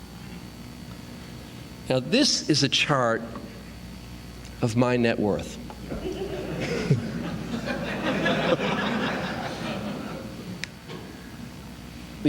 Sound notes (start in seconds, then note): 5.8 laughter